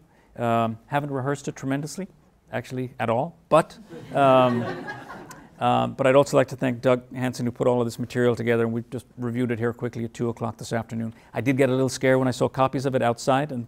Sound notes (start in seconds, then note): 3.9 laughing